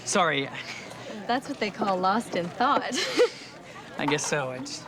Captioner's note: laughs